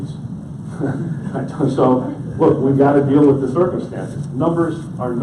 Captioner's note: laughs